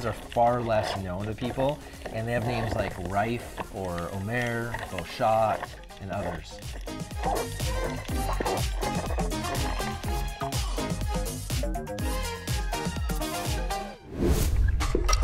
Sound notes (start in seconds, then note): 7.2 underwater fumbling